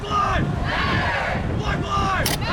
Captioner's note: crowd